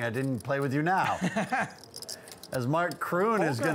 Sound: laughs

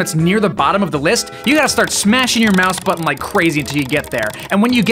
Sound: extremely incessant clicking

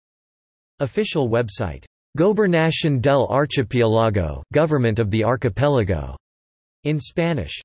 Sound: in Spanish

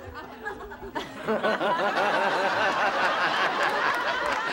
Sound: cackles maniacally

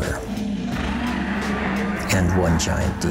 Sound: roaring

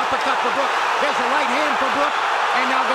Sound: cheers and applause

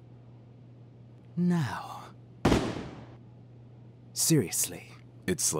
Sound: gun fires

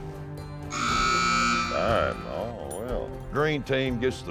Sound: buzzer sounds

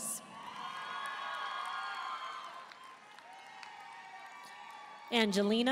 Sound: audience cheering and applauding

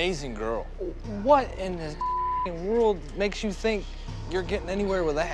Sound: beep

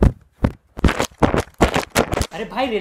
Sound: intense dabbing sounds; even more intense dabbing sounds

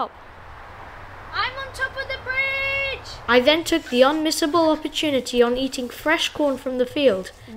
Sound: shouting

